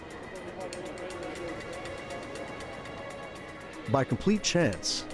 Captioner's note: people talking in background